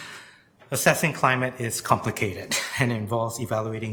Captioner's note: chuckles